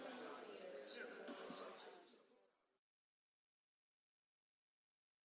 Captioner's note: audience murmuring